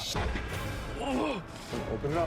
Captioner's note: groaning